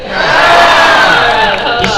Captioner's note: crowd cheer